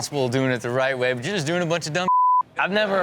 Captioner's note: beep